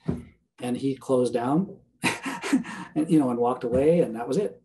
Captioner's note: chuckling